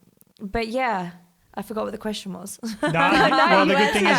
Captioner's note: laughs